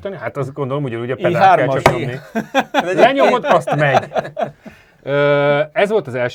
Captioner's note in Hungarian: nevetés